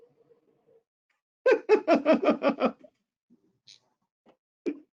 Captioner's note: laughter